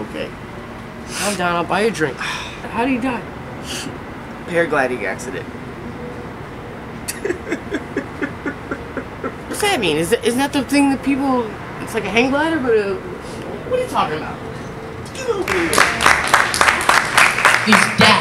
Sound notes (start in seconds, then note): 7.1 crying; 15.4 applause